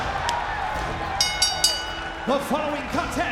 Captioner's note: bell dinging